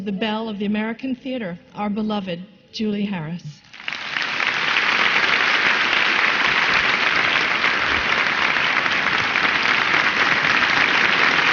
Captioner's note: much applause and a standing ovation